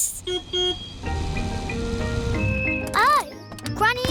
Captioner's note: car horn beeps